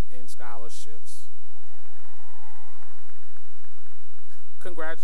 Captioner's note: cheering and applause